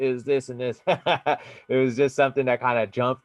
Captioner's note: laughing